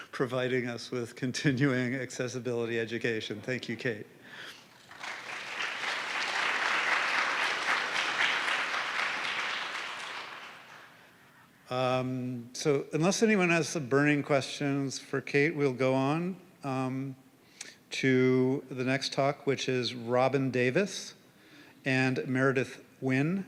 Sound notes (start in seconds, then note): 4.5 applause